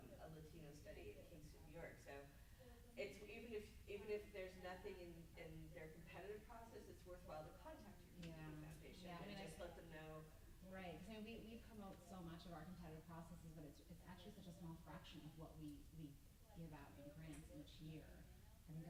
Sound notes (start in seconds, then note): 3.2 stammers